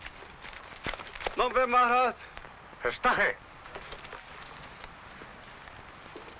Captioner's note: speaking foreign language